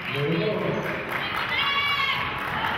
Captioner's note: cheering and clapping